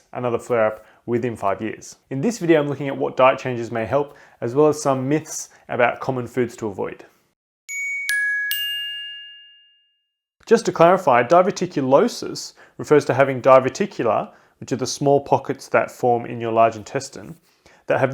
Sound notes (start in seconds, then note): 7.7 tinkling chimes